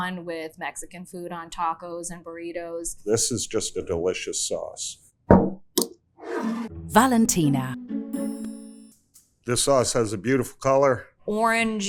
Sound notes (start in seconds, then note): 5.3 bottle thuds and scrapes